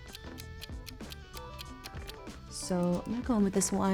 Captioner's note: timer ticking